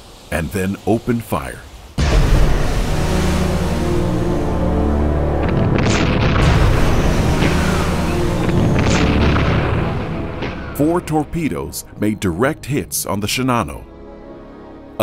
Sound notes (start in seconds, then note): 2.0 foreboding music continues; 5.3 torpedoes crashing